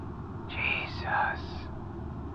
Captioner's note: Gem whispers